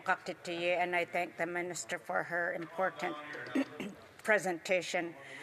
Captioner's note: speaking French